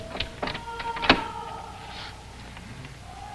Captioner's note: yelling